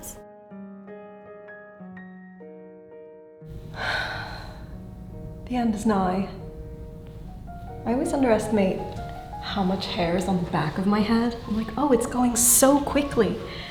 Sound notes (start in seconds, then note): 0.2 relaxing piano music; 3.7 sighs